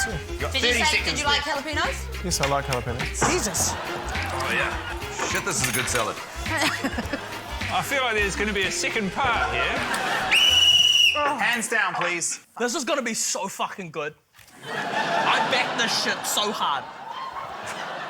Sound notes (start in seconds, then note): 7.1 laughs; 9.9 laughter; 10.2 blows whistle; 14.5 laughter